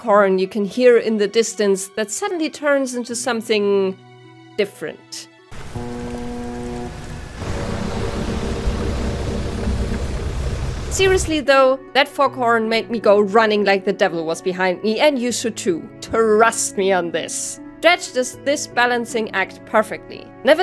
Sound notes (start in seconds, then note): 5.5 distorted fog horn; 5.5 fog horn